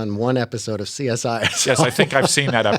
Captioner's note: laughter